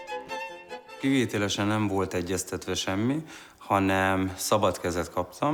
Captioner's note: speaking in foreign language